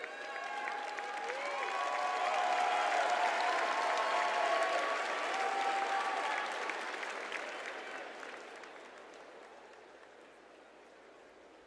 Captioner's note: applause